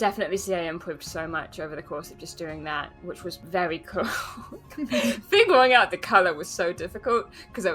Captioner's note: laughs